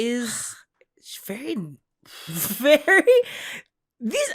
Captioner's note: laughs